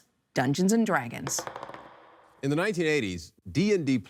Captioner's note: rattling of dice